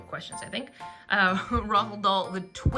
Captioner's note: laughs